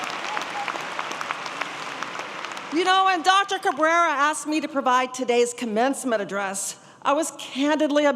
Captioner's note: applause